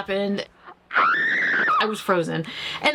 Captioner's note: actress screaming